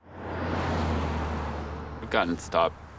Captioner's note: car driving